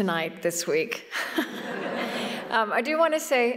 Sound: laughter

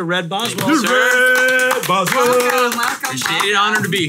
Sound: hosts cheer

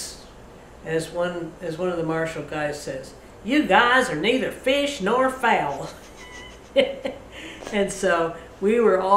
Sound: laughs

